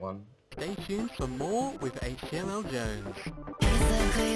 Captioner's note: distorted voice